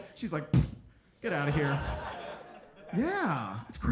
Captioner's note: audience laughing